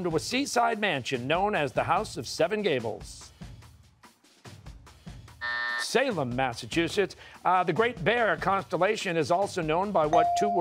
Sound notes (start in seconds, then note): 5.4 buzzer